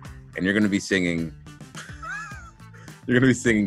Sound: laugh

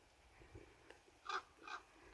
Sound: raven call

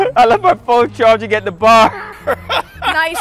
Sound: laughs

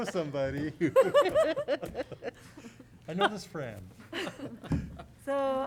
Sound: laughter

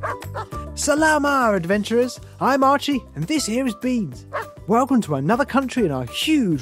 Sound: woof!

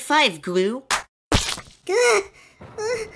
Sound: splat; nervous panicking

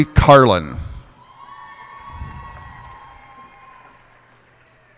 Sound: cheers and applause

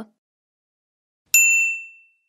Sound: bell rings once

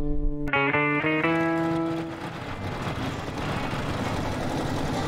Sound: engine rumbles

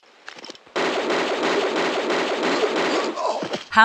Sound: BAM x7

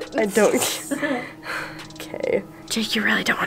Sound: laughs

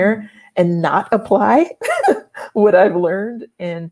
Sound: laughs

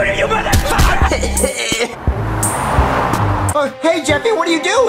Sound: Jeffy laughing

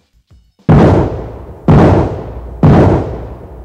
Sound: gun shooting

